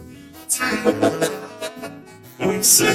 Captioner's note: laughing